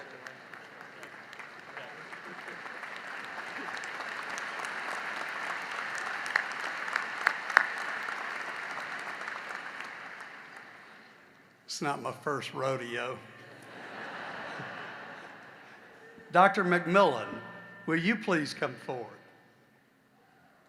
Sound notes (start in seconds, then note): 0.0 laughter; 2.6 applause; 15.7 laughter